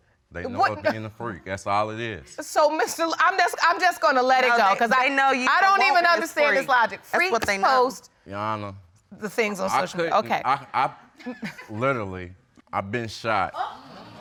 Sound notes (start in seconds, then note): 11.2 chuckles; 14.0 audience gasping